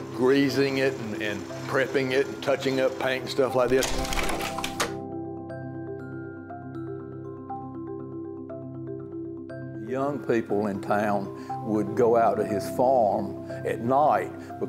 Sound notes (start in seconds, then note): 3.5 slide projector clicking; 4.4 nostalgic music